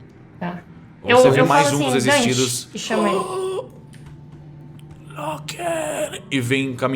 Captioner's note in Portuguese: Grunhido